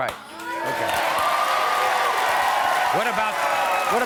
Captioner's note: audience cheering